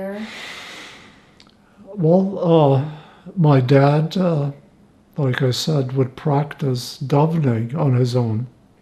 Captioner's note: hebrew